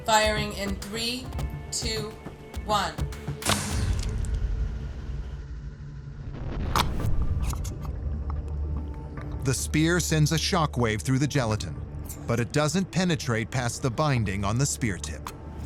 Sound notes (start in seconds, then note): 2.9 whooshing and splatting